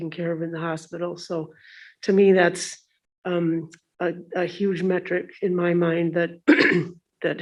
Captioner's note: clears throat